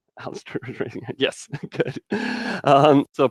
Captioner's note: chuckles quietly